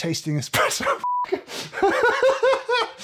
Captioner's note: laughs